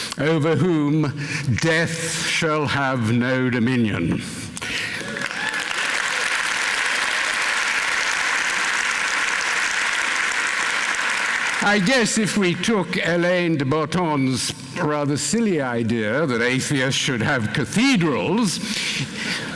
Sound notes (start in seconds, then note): 5.1 applause, cheering